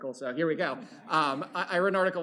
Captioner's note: laughter